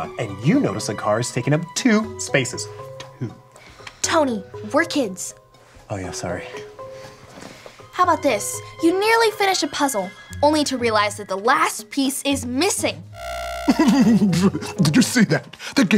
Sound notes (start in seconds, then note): 13.0 gauge buzzes; 13.6 professor laughs